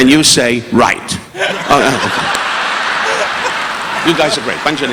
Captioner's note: audience laughing; participant laughing